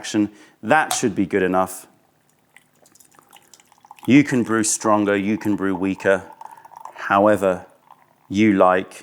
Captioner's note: pouring tea